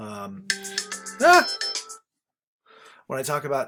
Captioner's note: phone alarm ringing